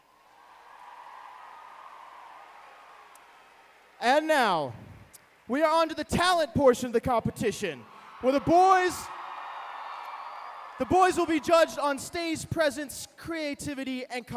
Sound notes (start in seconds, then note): 0.0 applause; 7.6 cheering